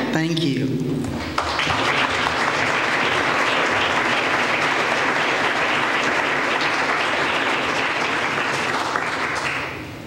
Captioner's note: applause